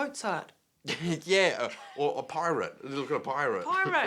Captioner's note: laughs